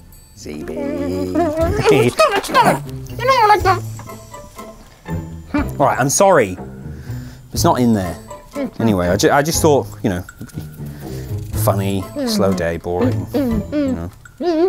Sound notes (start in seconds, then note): 8.4 zb grumbles